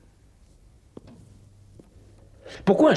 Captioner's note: sighs